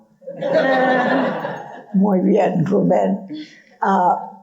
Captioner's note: audience laughing